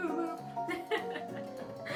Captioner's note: laughs